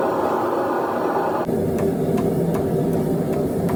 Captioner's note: hammer tapping